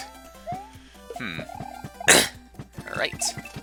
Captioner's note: clears throat